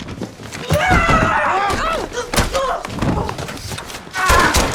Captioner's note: screaming; gunshots